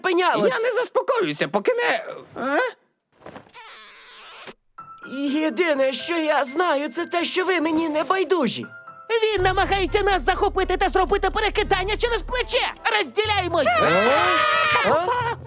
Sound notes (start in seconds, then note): 3.3 kiss sounds